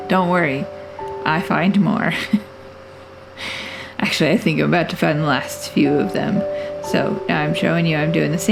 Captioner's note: laugh